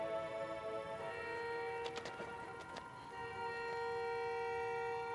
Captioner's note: car horn honking